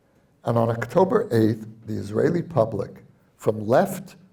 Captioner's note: none